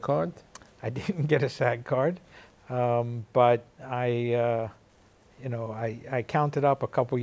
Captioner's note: chuckles